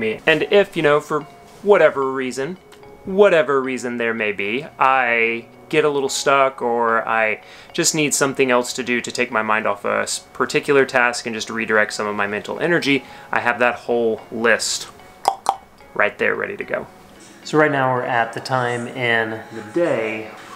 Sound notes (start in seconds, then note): 15.2 clicks tongue twice